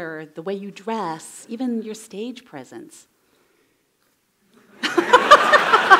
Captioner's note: laughter